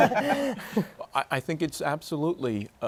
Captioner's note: laughter